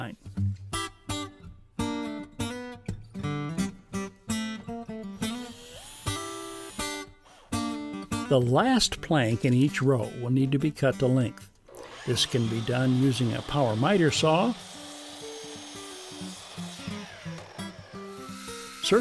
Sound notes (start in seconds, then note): 0.1 guitar playing; 5.3 whirring